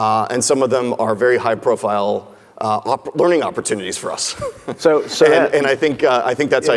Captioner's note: laughs